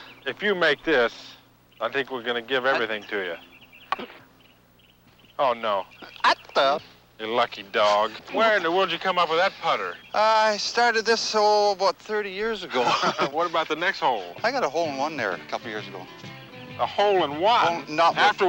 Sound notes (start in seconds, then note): 3.9 hockey stick taps